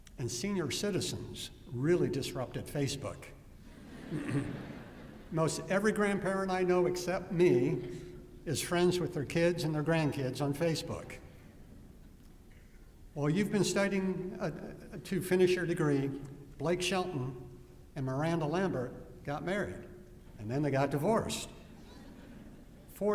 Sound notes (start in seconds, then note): 3.7 laughter